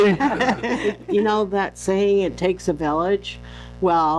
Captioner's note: laughing